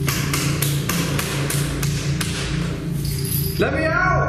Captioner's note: banging on door